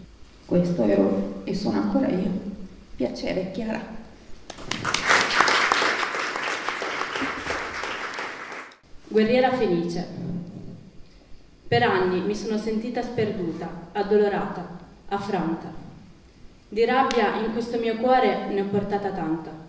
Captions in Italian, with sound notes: questo ero e sono ancora io piacere Kiara..." (applauso) "Guerriera felice." "Per anni mi sono sentita sperduta addolorata, affranta. Di rabbia in questo mio cuore ne ho portata tanta,